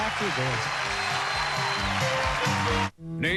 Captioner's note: cheers and applause